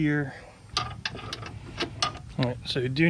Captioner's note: metal sliding